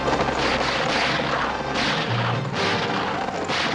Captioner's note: gunshots